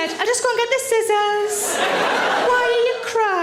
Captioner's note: audience laughs